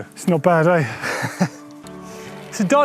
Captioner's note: laughs